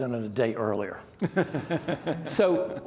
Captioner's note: laughing